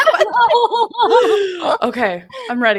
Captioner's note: both laugh